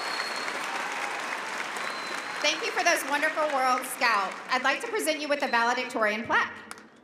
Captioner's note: cheering and applause; applause